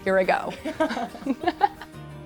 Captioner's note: laughter